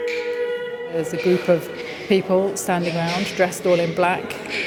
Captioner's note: chanting